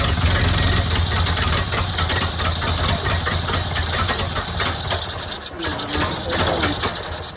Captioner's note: engine sputtering/idling; engine dies